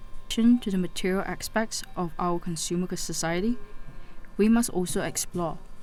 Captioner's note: voice-over